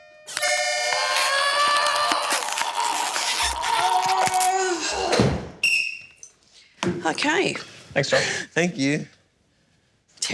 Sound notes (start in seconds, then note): 0.0 plays accordion chord; 0.8 makes crunching noise; 5.6 blows whistle